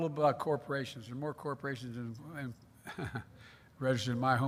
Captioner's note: laughs